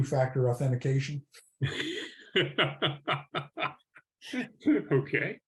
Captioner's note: laughs